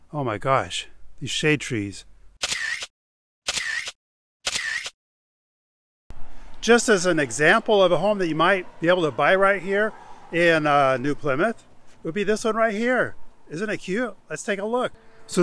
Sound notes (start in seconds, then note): 2.4 camera shutter clicking